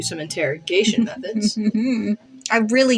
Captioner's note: malicious Giggle